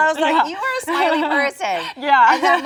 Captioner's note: both laugh